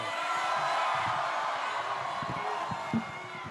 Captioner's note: crowd cheers